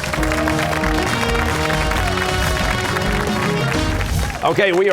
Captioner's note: cheers and applause